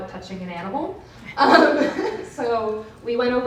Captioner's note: laughs